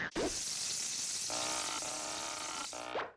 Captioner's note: sizzling